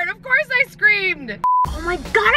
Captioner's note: high pitched beeping